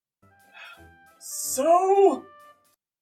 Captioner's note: sighs